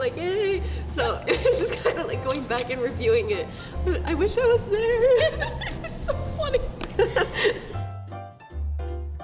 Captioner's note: laughs